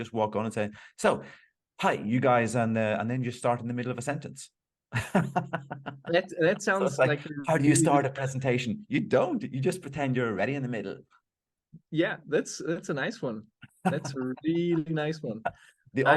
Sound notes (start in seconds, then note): 5.0 laughing